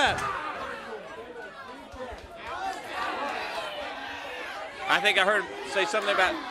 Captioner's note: crowd cheering